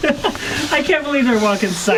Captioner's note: chuckles